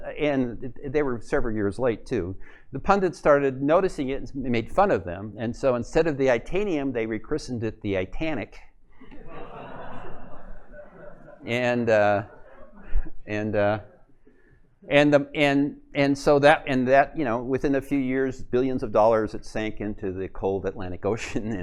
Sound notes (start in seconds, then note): 9.0 laughter